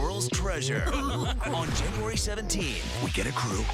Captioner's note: chuckling